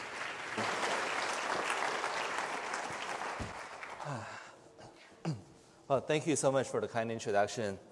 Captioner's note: applause